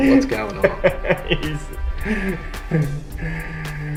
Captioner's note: laughs